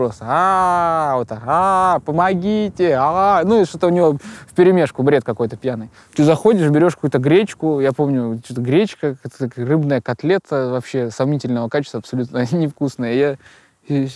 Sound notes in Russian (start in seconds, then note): none